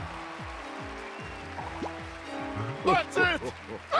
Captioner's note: laughs